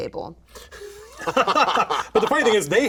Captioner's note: laughing